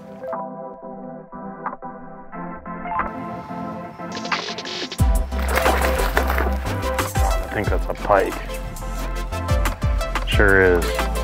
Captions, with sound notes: (smooth electronic music) (water splashing) I think that's a pike. Sure is.